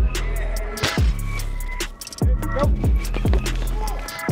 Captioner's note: weights crash